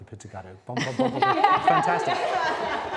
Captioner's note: laughter